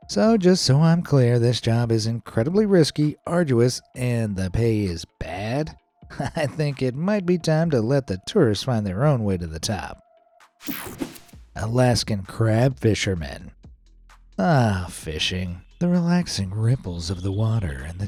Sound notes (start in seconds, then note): 10.6 screen whooshing